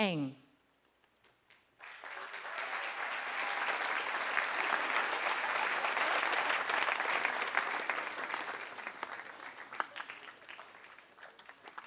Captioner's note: applause